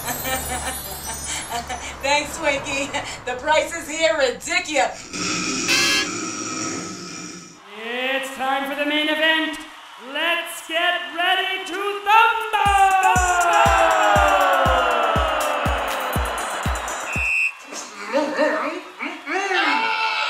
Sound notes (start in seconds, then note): 0.0 laughing; 5.0 snores